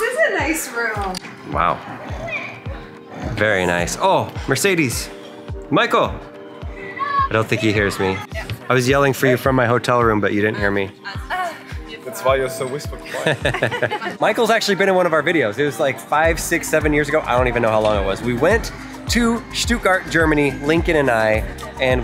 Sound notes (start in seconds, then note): 13.0 laughing